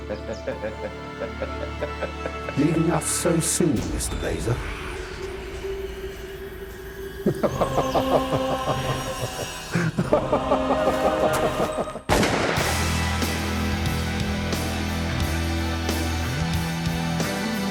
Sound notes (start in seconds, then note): 0.0 laughs; 7.2 evil laughing; 12.1 gun fires